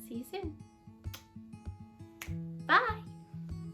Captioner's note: blows kisses and clicks fingers